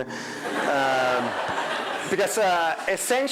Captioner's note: crowd laughing